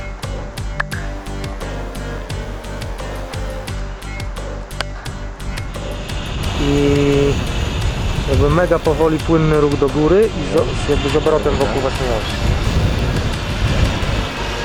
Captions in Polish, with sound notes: [klaśnięcie] [klaśnięcie] I... może mega powoli płynny ruch do gory... i z aparatem wokół własnej osi...